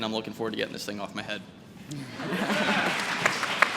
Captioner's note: applause